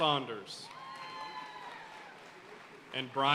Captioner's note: audience cheering and applauding